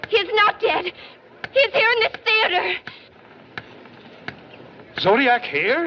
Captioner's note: murmuring